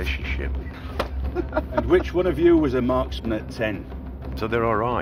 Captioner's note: laughs